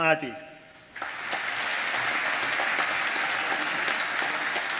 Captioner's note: applause